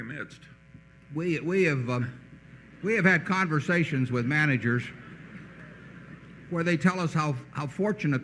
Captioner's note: laughter